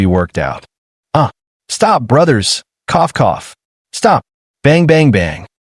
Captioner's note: cough cough